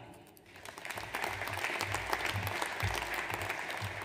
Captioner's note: audience applauds